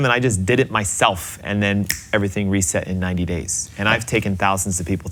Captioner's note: fingers snapping